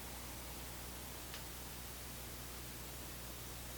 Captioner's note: click